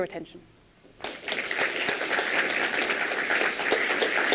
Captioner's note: applause